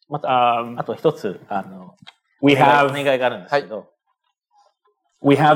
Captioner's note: speaking japanese